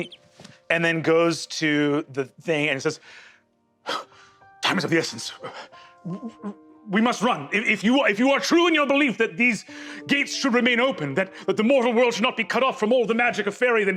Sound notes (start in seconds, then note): 0.0 bird chirp; 5.5 stammers; 5.5 gasps